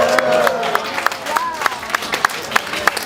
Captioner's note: audience reacts